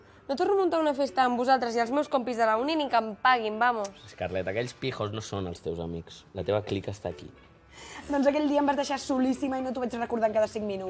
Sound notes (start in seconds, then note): 7.3 sighs